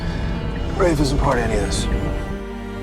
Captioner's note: voiceover